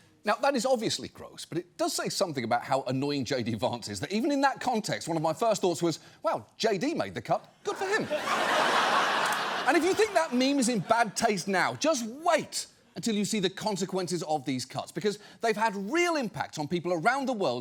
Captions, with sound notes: Now, that is obviously gross, but it does say something about how annoying JD Vance is, that even in that context, one of my first thoughts was, "Wow, JD made the cut. Good for him." (AUDIENCE LAUGHS) And if you think that meme is in bad taste now, just wait until you see the consequences of these cuts, because they've had real impact on people around the world